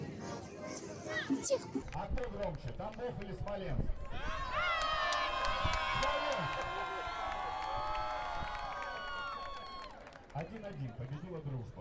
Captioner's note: crowd screams